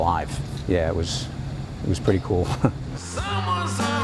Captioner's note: laughs